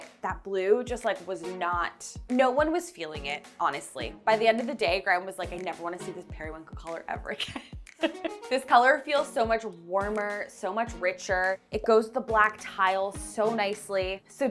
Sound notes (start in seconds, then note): 7.3 laughing